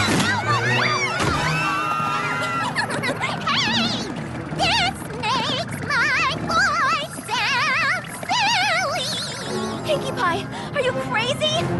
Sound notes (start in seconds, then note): 2.3 Pinkie Pie giggles; 3.4 vibrating